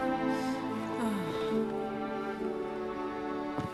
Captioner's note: passionate sigh